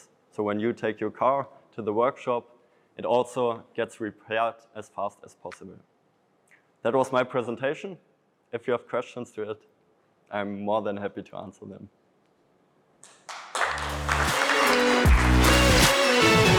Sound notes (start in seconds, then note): 13.0 audience applauding; 13.6 upbeat music